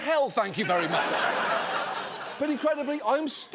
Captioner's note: studio audience laughing